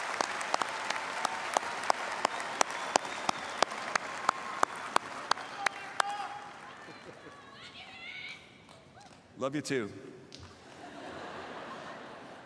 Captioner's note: applause